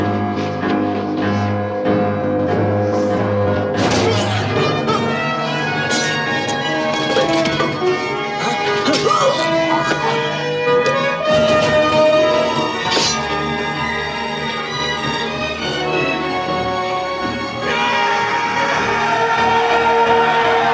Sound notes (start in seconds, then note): 3.8 grunts; 8.7 grunts; 17.6 screams; 18.4 yelling